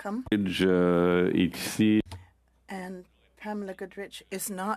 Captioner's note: speaking French